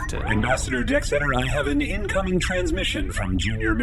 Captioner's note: beeps and boops of an incoming transmission; laughs